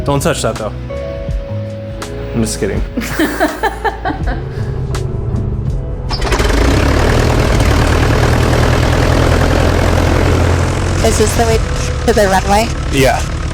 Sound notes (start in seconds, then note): 2.9 laughs; 5.8 airplane engine starts